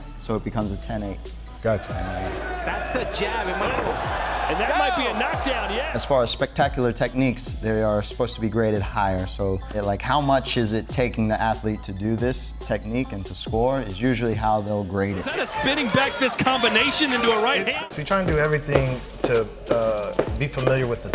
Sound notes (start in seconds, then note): 1.7 audience cheering